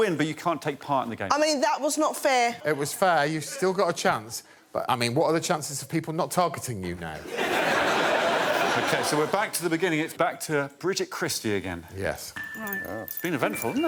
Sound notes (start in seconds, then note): 9.5 laughter